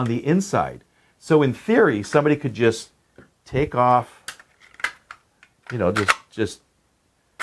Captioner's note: gadget clicking